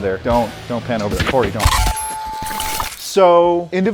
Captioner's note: transmission crackling